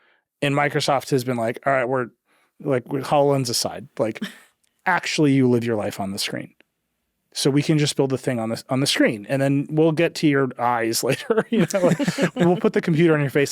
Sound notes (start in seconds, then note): 11.0 chuckling